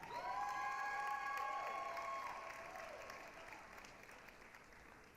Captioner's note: applause, cheering